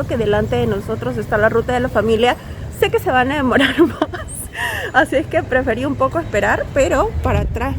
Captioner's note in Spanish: risas